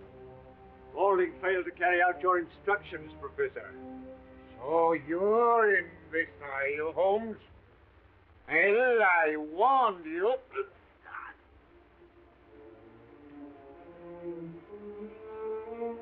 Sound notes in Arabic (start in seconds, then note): 11.1 شيرلوك يتذمر; 11.6 موسيقى أوركسترالية درامية